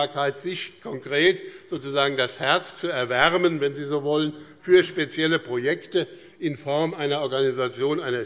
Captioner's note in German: none